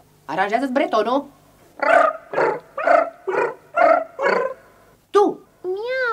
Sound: the cats purr in a melodic chorus

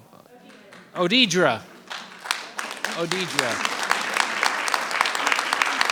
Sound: applause rings

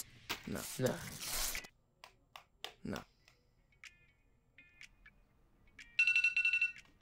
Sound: paper ripping; pencil tapping; alarm ringing

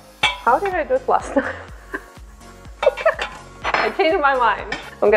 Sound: laughs

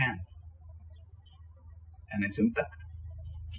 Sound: birds chirping

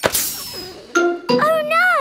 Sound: tire hisses; laughing

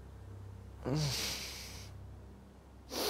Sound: groan

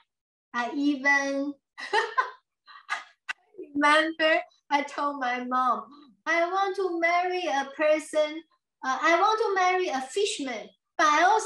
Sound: laughs

